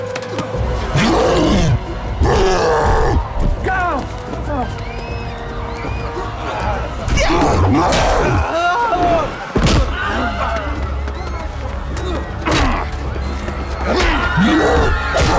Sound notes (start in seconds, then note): 4.5 women screaming